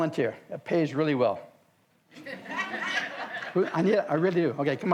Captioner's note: audience laughs